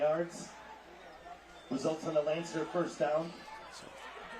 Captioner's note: laughter